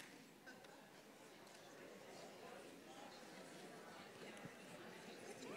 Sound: audience murmurs

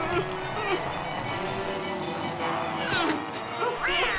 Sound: groaning; growling; yowling

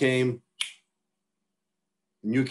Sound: fingers snap

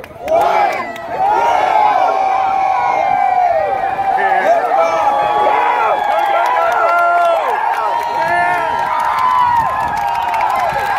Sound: cheering

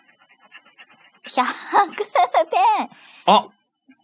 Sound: laughs

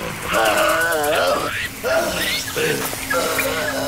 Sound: buzzing, crackling; growls

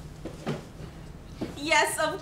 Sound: whispering

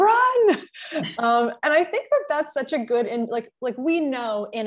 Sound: chuckle

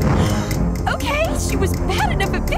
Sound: gasps

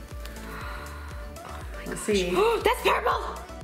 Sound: gasping

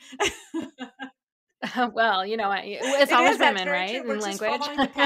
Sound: laughs

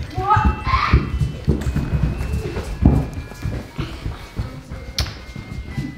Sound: footsteps thudding

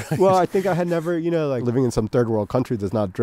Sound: chuckles

